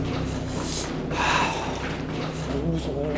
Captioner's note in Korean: 이 숨을 들이켠다